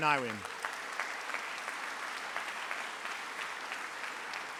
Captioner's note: audience applauds